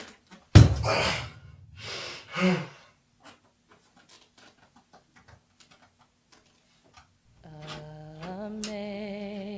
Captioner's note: Gerry's frustrated groans